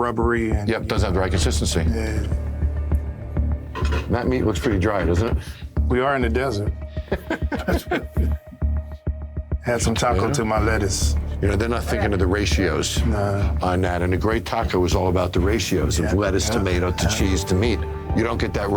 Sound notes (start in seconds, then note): 6.9 chuckling